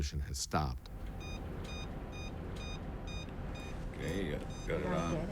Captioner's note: machine beeping